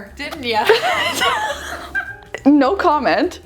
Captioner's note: laughing